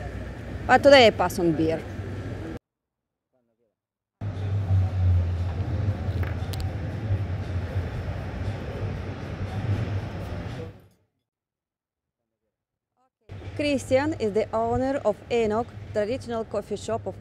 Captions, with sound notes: But today, I pass on beer ! ( Street noise) ( Street noise) Christian is the owner of Enoc, traditional coffee shop of Madrid.